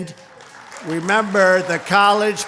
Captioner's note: applause